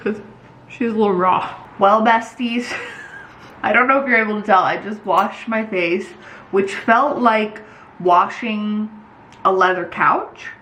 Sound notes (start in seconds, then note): 2.6 laughs